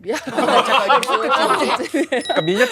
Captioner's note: bursting with laughter